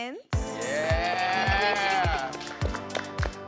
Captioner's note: cheering